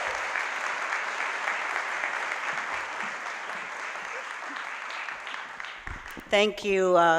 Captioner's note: applause